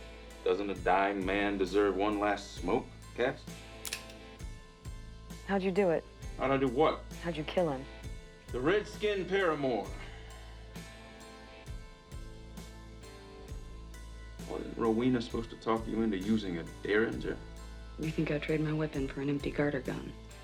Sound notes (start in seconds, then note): 3.8 trigger clicks